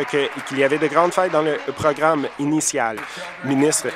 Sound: applause

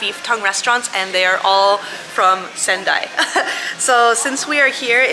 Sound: laughs

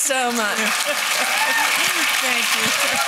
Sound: applause

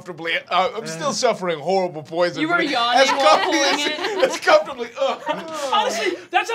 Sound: grunts

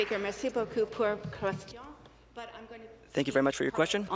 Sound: applause

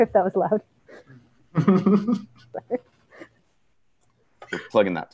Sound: laughing

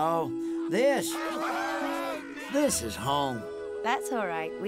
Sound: cheering

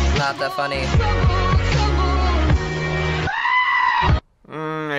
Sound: screaming

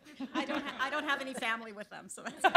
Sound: laughter

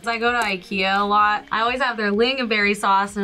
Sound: none

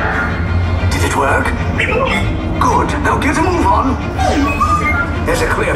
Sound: DROID responding

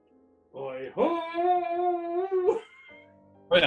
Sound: laughs

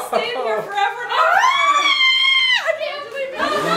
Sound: screaming

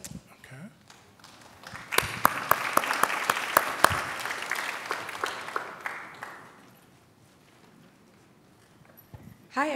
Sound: applause

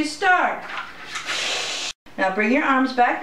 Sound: sucking sound

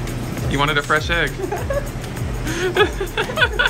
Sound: laughs

